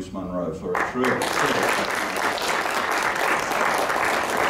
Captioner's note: applause